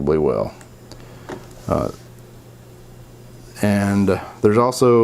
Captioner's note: mouse clicking